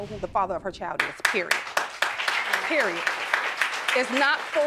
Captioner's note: audience applauding